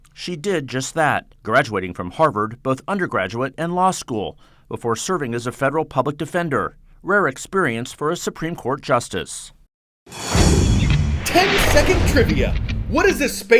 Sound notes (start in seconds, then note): 10.0 voice-over